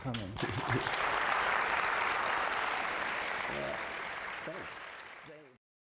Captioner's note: applause